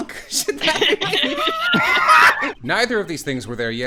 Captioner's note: laughter